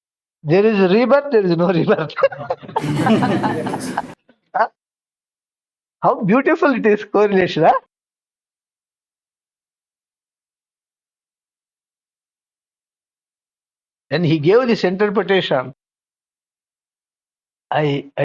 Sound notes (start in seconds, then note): 2.2 laughs